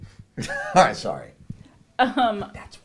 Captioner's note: laughs